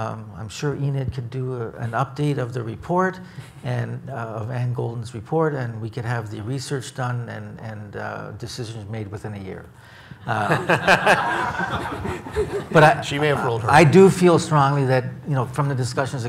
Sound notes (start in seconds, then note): 10.3 audience laughs